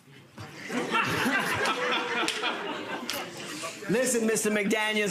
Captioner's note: audience laughter